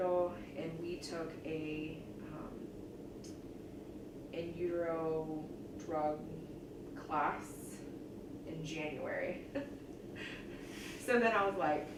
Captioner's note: laughs